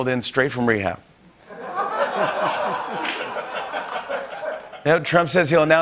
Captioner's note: laughter